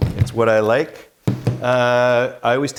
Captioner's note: screwdriver thumping